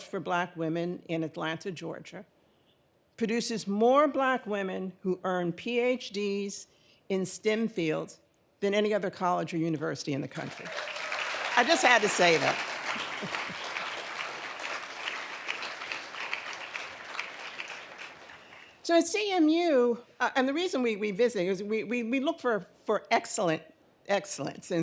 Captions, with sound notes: for black women in Atlanta, Georgia, produces more black women who earn PhDs in STEM fields than any other college or university in the country. (audience applauding) I just had to say that. (laughs) So at CMU, and the reason we we visit is, we look for excellence.